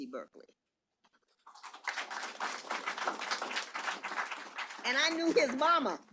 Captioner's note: applause